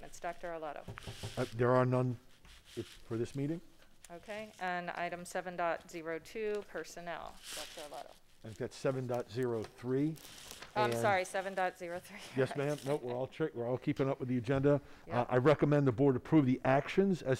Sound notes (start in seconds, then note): 12.5 laughs